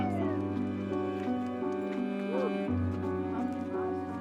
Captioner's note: people cheering